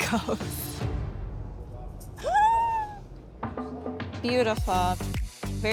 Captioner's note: squealing